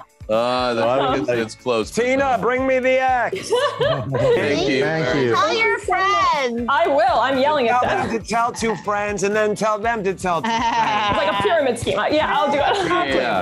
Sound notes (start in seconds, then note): 0.0 host laughs; 3.3 Belen laughs; 10.4 Kristen laughing